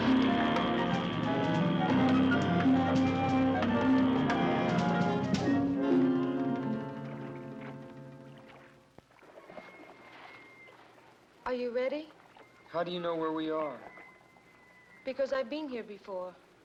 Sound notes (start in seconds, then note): 0.0 motor hums; 0.0 suspenseful music; 9.2 seagulls squawking faintly